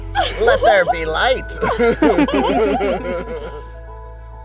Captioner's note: laughing